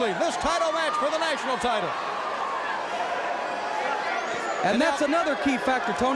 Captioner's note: crowd chatter